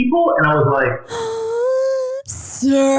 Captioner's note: gasping